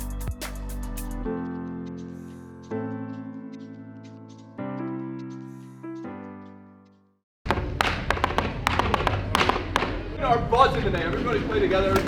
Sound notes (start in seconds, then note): 7.6 hands tapping